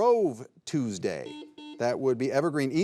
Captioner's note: buzzer buzzing